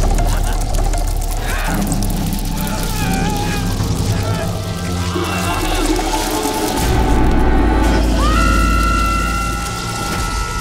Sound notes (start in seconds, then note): 0.1 screaming; 2.7 groaning; 7.9 screaming